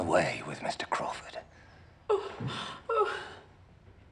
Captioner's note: Lady Bertram cries